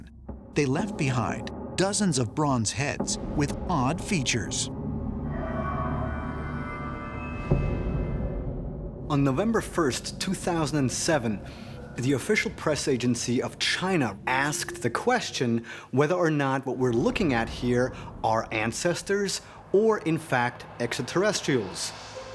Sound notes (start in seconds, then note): 4.7 sharp, eerie whirring